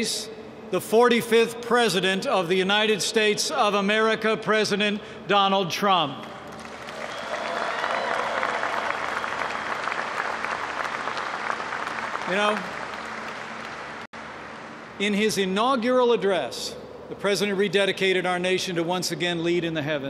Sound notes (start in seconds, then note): 6.4 applause